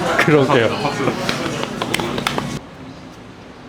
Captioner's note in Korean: 짝짝짝